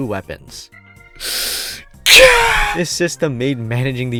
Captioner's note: inhales